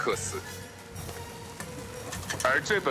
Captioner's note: galley creaking